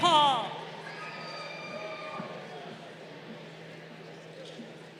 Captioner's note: crowd cheering